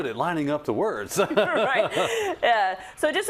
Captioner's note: laugh